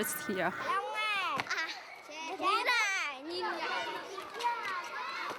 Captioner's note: Vietnamese spoken audio